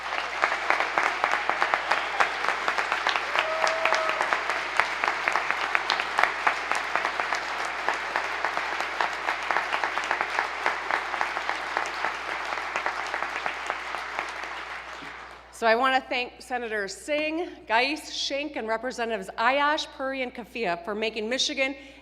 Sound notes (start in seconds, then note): 3.2 applause